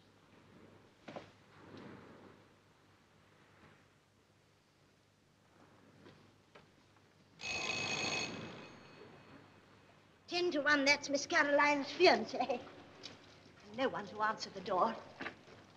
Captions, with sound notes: (Doorbell) Ten to one that's Miss Caroline's fiance. And no-one to answer the door.